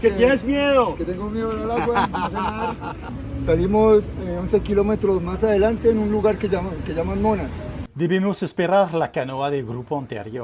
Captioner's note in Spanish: risa